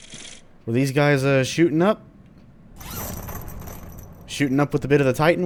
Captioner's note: ammo clattering